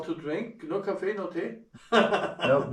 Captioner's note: speaking German; laughs